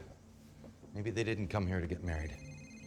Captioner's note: phone rings